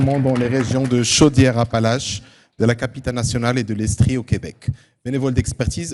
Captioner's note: speaking French